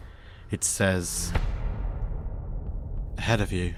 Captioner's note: thud